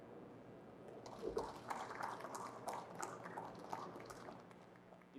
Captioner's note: audience clapping